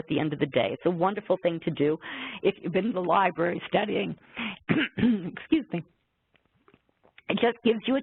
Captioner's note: cough